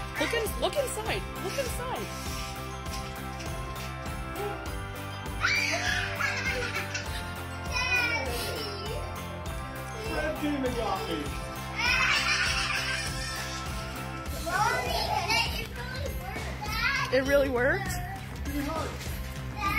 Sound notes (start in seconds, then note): 2.4 wrapping paper ripping; 5.4 child laughing; 11.7 child laughing